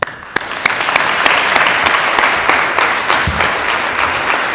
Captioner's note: applause